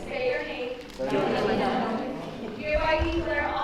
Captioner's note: crowd stating names